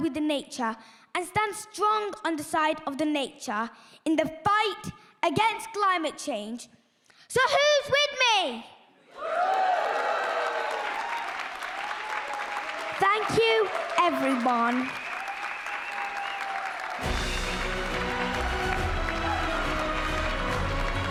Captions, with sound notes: with the nature and stand strong on the side of the nature in the fight against climate change. So who's with me? (audience applauding) Thank you everyone. (upbeat music)